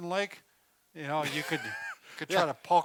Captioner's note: laughs